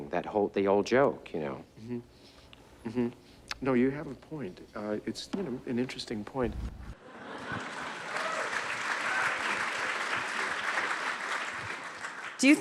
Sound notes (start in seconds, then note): 7.0 audience laugh; 9.1 audience applauding